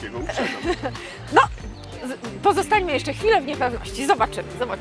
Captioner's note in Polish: śmiech